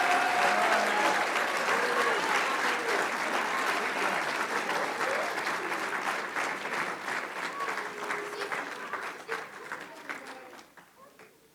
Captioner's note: applause